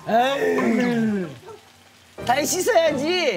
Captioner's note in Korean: 감탄사 연발